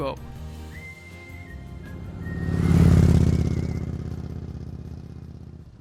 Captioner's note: motorcycle engine passing